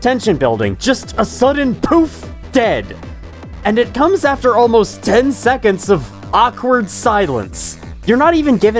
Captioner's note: poof